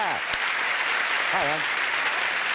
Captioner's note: applause